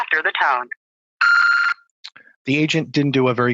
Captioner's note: beep